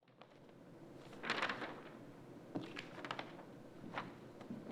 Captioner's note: papers rustling